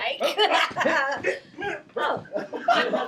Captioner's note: laughing